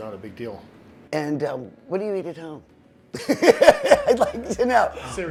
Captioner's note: laughs